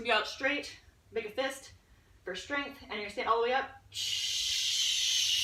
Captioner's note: audible exhale